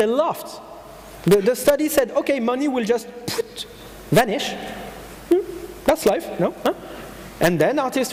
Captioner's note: poof